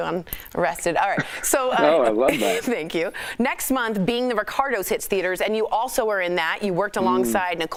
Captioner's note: laughter